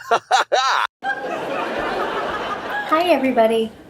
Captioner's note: audience laughing